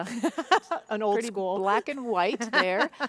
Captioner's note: laughs